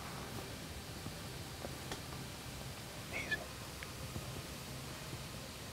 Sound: whispering

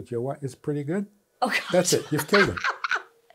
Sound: laughs

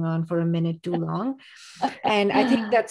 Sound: laughs

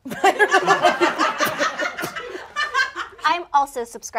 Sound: all laughing

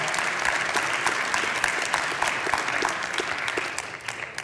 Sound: congregation clapping

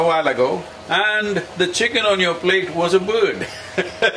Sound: laughs

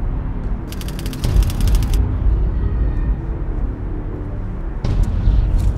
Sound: typewriter clicking; ominous music

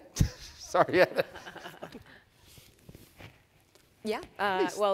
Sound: panelists chuckling

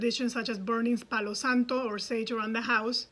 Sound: speaks in foreign language

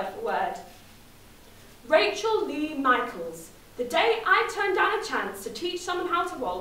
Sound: Manchester accent

